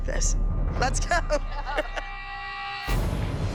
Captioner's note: laughing